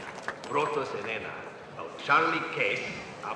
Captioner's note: speaking spanish